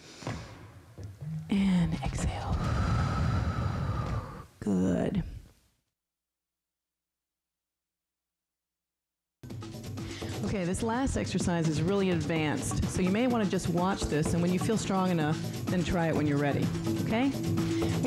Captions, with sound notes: and exhale, good. (breath hisses) Okay, this last exercise is really advanced, so you may want to just watch this, and when you feel strong enough, then try it when you're ready, okay?